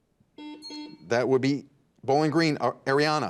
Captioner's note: buzzer beeps